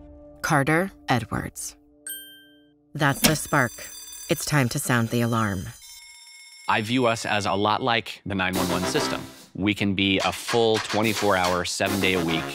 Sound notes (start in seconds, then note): 2.0 wink chime; 5.7 fire alarm rings; 8.5 anthemic music